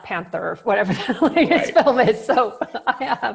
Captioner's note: laughs